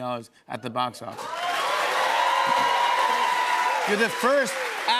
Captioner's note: cheers and applause